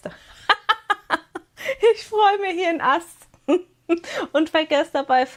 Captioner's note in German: gelächter